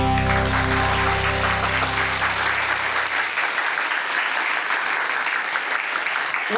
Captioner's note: applause